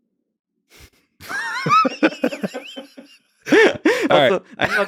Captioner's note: both laughing